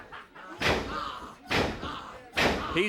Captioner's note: ring shudders